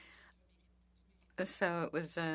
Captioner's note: speaking French